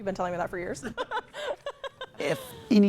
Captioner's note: both laughing